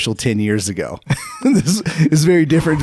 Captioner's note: laughing